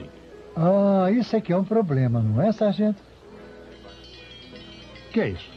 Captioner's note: bell dinging